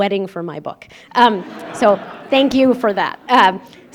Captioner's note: laughter